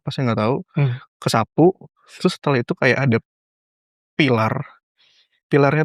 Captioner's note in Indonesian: berdehem